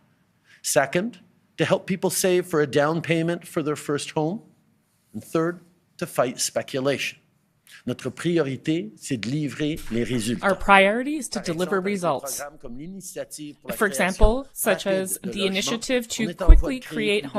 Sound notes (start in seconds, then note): 12.5 speaking French